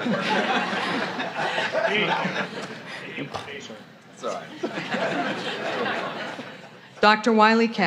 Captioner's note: laughter